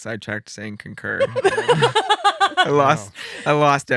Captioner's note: laughing